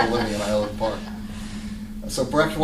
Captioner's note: laughter